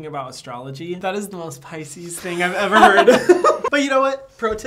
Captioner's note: laughing